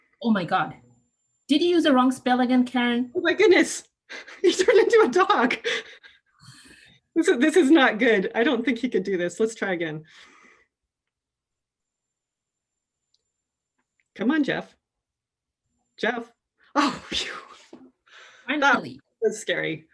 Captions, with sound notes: Oh my god, did you use the wrong spell again, Karan. Oh my goodness. You turned into a dog. So this is not good. I don't think he could do this. Let's try again. Come on, Jeff. Jeff. (SIGHS) Finally. That was scary.